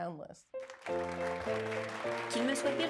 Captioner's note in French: Applaudissements